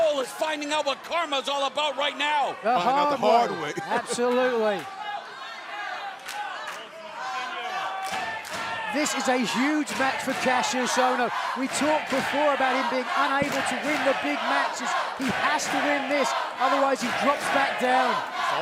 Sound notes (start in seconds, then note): 8.4 fans chanting